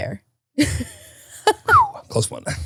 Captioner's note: whistles